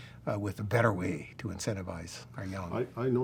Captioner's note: murmurs